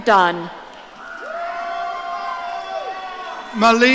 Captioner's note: audience cheering